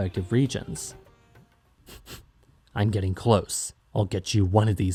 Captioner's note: sniffs